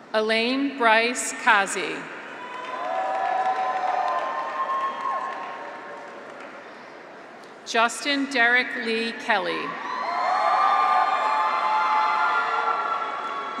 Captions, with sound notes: Alain Brice Kaze. (graduates cheer) (audience applauds) Justine Derrick Lee Kelly. (graduates cheer)